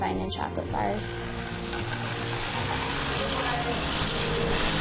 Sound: machine rumbles

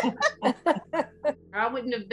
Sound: laughs

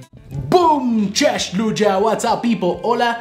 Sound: foreign language

